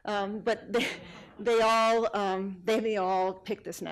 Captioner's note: audience laughing